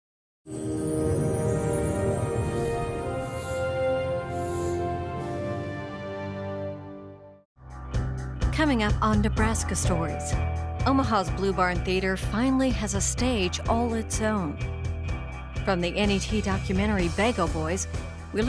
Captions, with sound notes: [Voiceover] Coming up on Nebraska Stories. Omaha's Blue Barn Theater finally has a stage all it's own. From the NAT documentary Bago Boys,